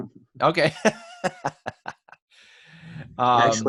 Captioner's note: laughs